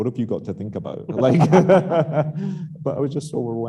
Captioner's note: laughing